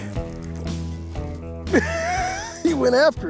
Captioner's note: laughs